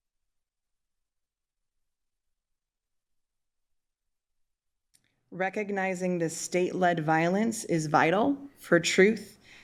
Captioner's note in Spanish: momento de silencio